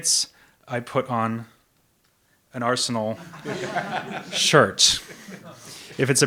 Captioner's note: audience laughs